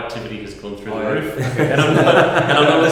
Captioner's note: laughter